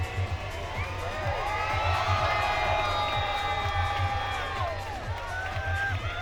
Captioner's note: cheering